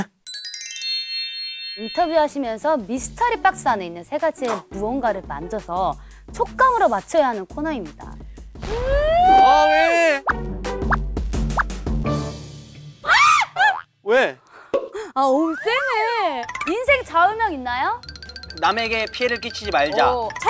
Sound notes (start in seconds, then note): 8.7 screams as soon as they see it